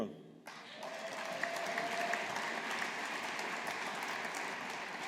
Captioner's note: audience applauding